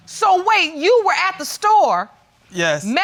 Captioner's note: none